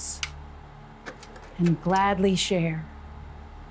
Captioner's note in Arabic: أصوات نقر جهاز العرض